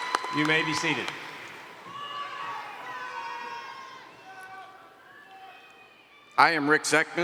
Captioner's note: applause